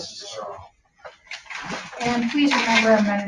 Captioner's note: chairs shuffling